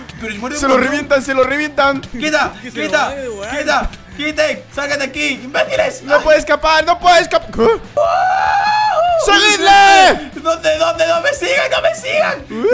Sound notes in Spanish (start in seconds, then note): 9.3 Emocionado